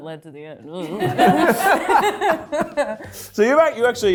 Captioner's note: group laughs